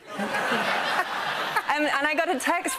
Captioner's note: laughter